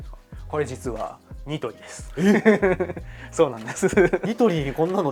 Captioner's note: laughs